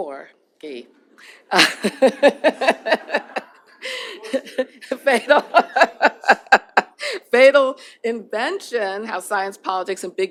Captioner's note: laughter